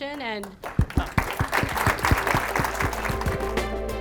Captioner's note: applause